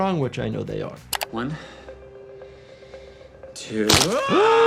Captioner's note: Hughie screams